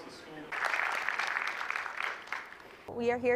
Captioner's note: applause